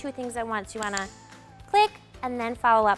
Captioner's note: clicker clicks